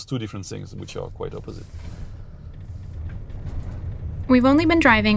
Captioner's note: bustle of a car interior